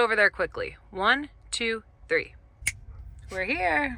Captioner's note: snaps fingers